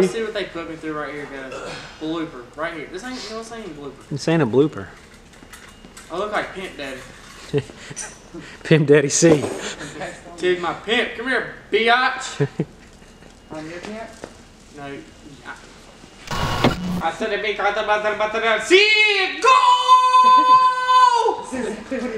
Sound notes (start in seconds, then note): 9.0 laughs; 12.4 man behind camera laughing